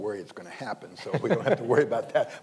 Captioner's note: panelists laughing